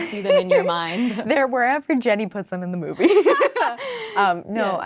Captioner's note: laughing